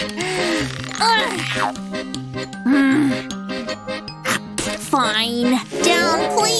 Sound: groans

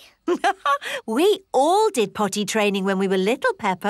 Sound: laughs

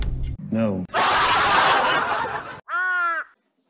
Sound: laughs

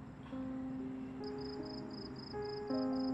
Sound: crickets Chirping

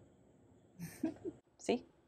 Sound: laughs

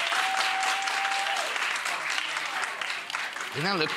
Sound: audience laughs and claps; audience cheering

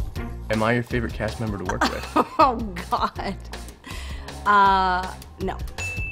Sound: laughing

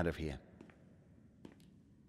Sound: footsteps

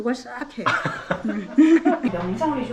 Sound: laughing

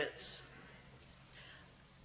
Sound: none

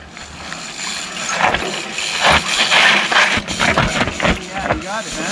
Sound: bike whirring and scraping noises

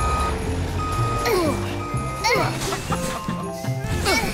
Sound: Dot and Hal grunt; both laugh

